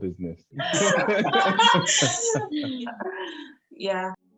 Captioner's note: laughing